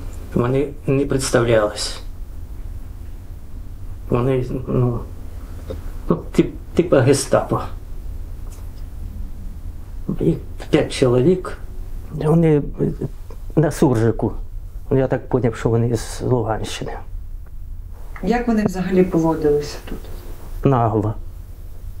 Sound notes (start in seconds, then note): 13.7 mixed language